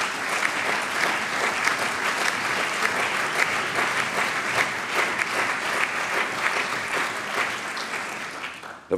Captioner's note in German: Allgemeiner Beifall